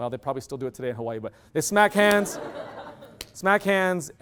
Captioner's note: loud laughter